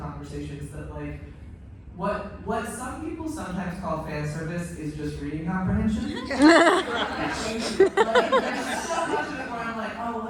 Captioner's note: laughter